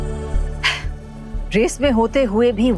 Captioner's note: sharp exhale